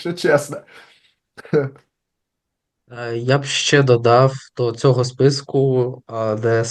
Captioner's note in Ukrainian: сміється